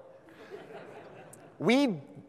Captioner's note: audience laughs